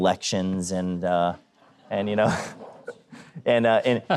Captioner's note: Huckabee and audience laugh